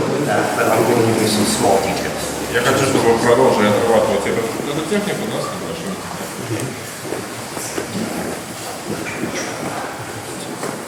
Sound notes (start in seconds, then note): 3.0 speaking in a foreign language